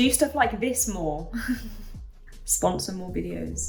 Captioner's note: chuckles